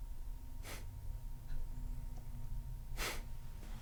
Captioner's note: chuckle